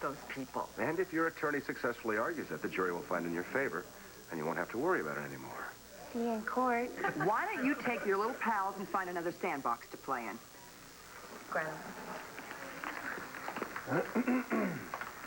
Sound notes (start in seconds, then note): 8.7 students laugh